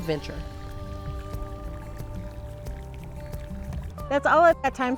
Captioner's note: river running; light uptempo music